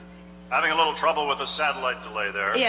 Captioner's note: voiceover